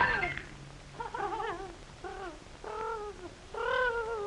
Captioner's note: distressed whimpering